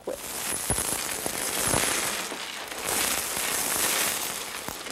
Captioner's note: glass pieces clanking together